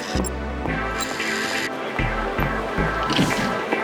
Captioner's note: computer beep